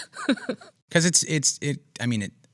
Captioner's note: laughs